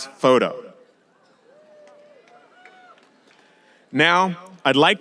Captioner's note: audience applauding and cheering